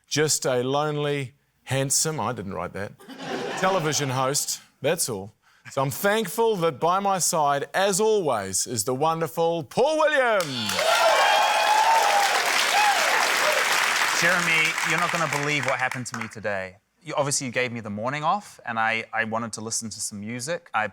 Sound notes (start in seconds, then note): 10.4 cheering, applause